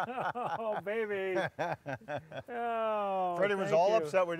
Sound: laughing

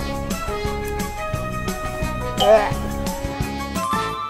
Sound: choking up

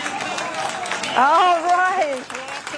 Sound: applause

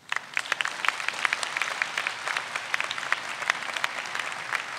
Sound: audience applauds

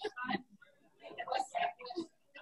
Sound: laughing

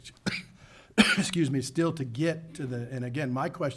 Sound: coughs

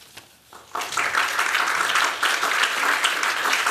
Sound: applause

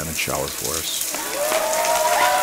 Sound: water splashing; crowd cheering

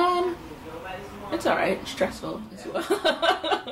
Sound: laughs

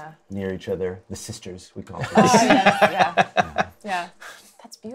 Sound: laughs

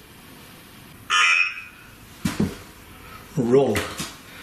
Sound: alert sounding

